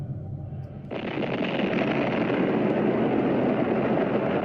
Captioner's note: explosion booming